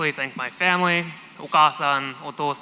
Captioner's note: non-english